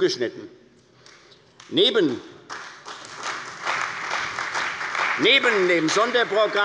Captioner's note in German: Beifall bei der CDU und dem BÜNDNIS 90/DIE GRÜNEN